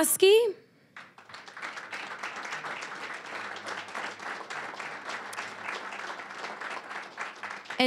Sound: applause

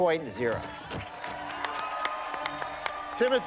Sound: cheers and applause

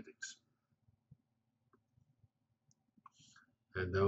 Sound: pause

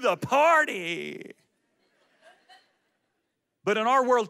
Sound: audience laughs

